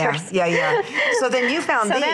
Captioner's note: laughs